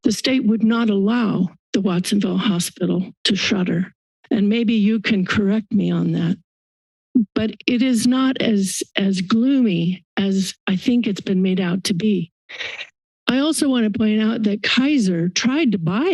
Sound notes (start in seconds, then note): 6.6 silence; 12.5 inhales